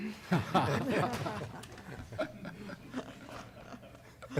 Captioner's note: laughter